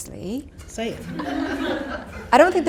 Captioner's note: audience laughter